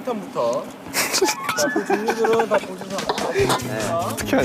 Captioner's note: Tidak bisa berhenti tertawa